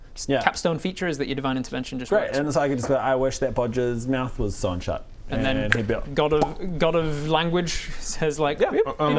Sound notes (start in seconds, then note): 5.8 click